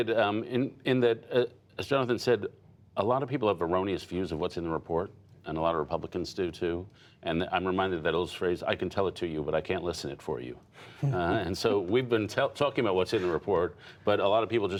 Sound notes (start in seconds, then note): 11.5 laughter